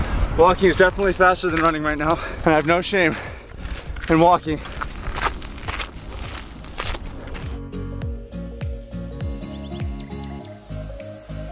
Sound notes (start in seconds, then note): 4.9 feet crunching in sand; 7.8 uplifting music